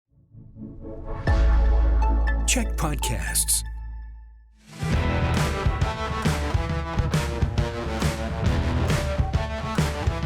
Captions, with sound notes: [announcer voice]: CHEK podcasts.